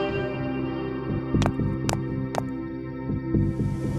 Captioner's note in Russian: цокот каблуков